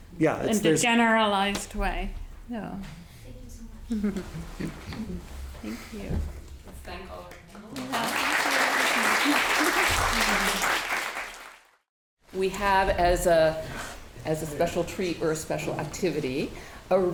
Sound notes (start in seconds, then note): 7.6 audience applauding